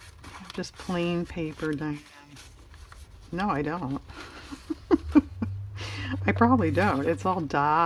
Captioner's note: laughs